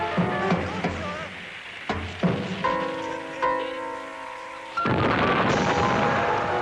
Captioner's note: soldiers speaking in foreign language